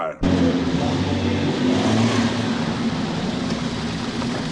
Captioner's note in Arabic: هدير المحرك